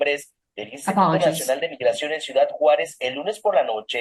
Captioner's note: speaking spanish